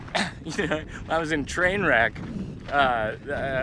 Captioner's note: laughs